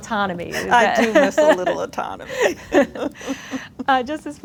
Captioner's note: laughs